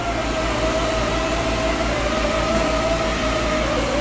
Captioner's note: machine humming